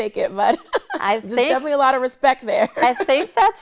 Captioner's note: laughs